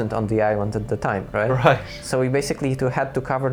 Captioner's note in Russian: смех